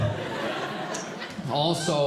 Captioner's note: audience Laughing